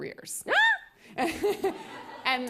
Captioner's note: laughter